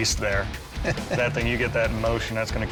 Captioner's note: chuckles